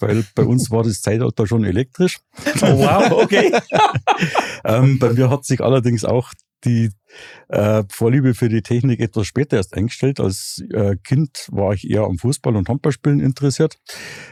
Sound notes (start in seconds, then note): 2.4 alle lachen